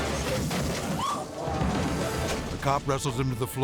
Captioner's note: crashes; onlooker shrieks